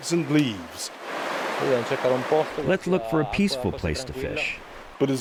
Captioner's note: through translator